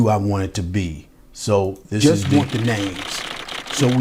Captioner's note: typewriter keys clacking